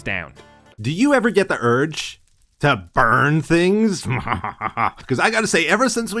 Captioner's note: mildly evil laugh